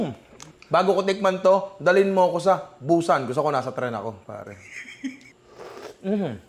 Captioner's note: laughs